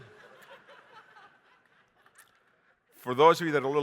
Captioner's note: audience laughing